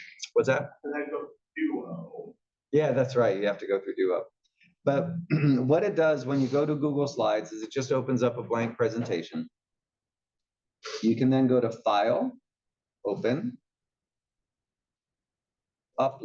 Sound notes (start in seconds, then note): 5.3 cough